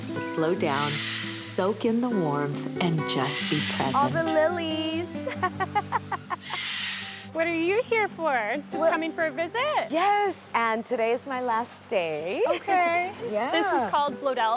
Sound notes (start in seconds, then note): 5.2 laughs